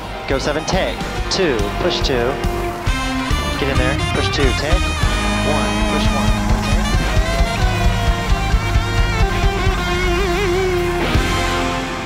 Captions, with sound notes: go seven take, two push two. (audience applaud) (upbeat music)